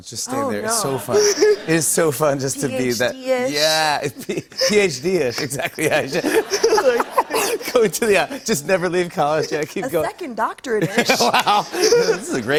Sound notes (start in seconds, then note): 4.0 laughter